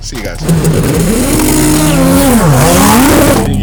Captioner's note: engines revving